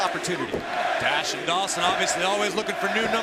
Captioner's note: crowd cheering